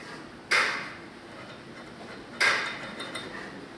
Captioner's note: clacking